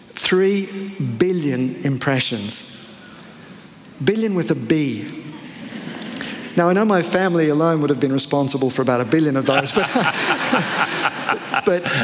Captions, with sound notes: 3 billions impressions. A billion with a B [laughter]. Now I know my family alone would have been responsible for about a billion of those [laughter] but --